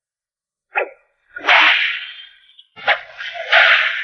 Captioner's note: cracking whip